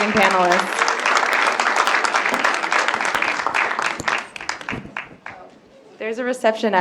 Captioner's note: applause